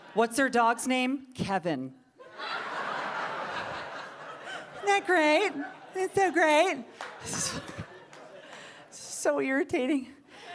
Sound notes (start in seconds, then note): 2.2 audience laughing; 10.3 audience laughing